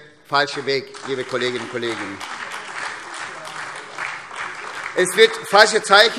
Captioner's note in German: Beifall SPD, DIE LINKE und AfD